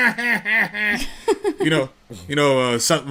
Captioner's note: chuckles